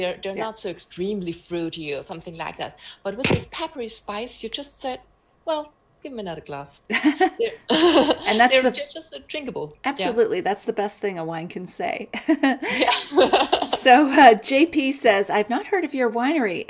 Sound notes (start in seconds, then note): 12.6 laughs